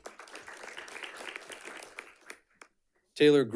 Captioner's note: audience clapping